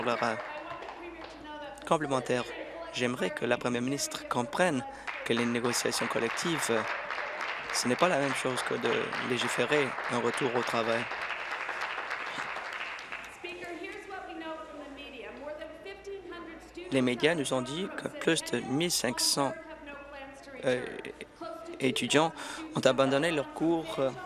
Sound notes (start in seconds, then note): 10.6 applause